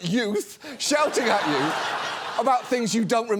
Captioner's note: audience laughs